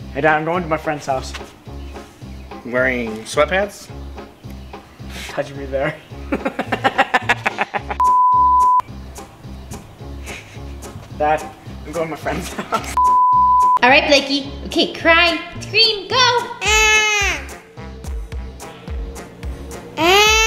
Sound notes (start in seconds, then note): 6.2 laughing; 8.0 beep; 12.2 both laughing; 13.0 beep